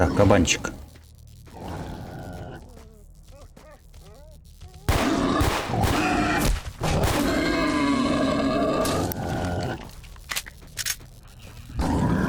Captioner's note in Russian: Стреляет из ТТ по кабанам, кабаны взвизгивают